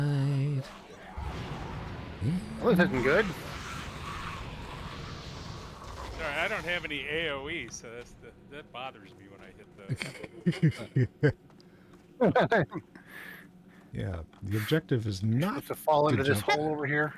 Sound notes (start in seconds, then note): 9.8 laughs